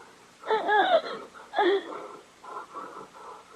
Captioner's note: sobbing